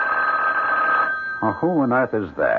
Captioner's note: phone rings